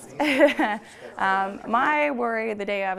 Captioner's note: laughs